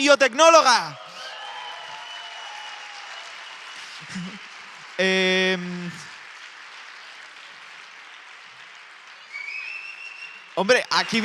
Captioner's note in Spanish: Aplausos